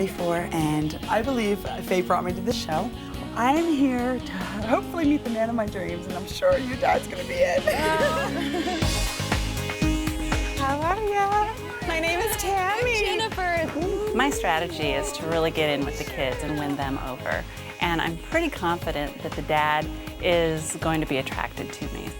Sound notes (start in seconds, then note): 8.1 daughters laughing; 9.1 upbeat music continues